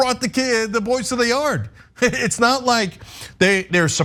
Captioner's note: laugh